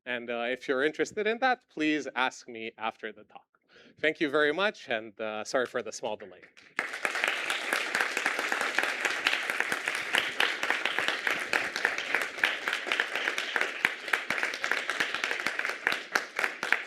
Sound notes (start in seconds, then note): 6.8 applause